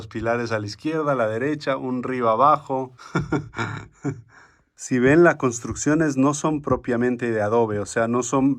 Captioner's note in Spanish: risas